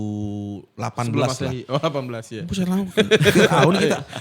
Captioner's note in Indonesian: tertawa